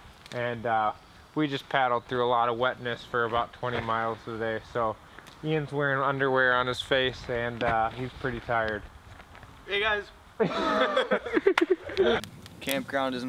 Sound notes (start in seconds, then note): 10.4 laughter